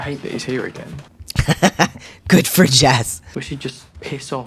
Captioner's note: laugh